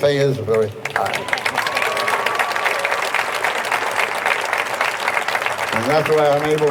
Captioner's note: audience applauding; audience cheering